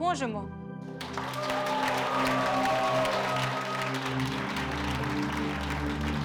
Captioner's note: applause